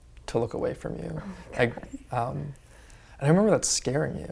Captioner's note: whispers